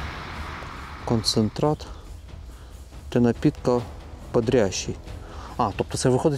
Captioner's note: reads in russian